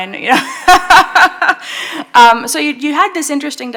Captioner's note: laughing